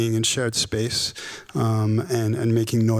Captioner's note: none